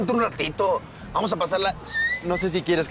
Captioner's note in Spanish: Silbido